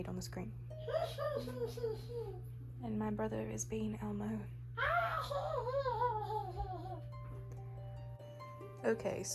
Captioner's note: hehe continues